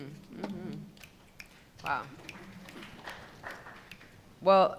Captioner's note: snapping fingers